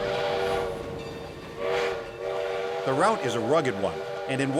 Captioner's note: train whistle